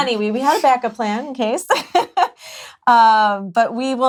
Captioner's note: laughs